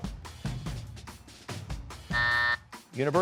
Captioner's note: buzzer